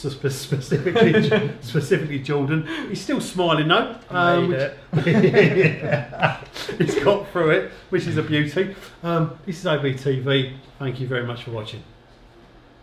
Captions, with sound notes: - (laughs) - Specifically Jordan. He's still smiling though. - I made it. - (laughs) - It's caught for it, which is a beauty. This is OBTV. Thank you very much for watching.